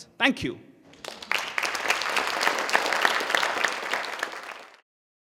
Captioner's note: audience applauding